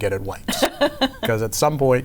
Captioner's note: laughs